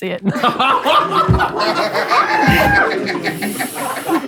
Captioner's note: people in room laughing